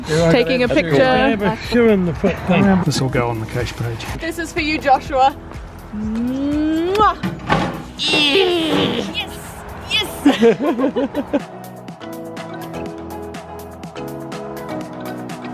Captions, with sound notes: Taking a picture. This will go on the cache page. This is for you, Joshua! (Makes kissing sound) Yeaaaah! Yes, yes! (All laughing)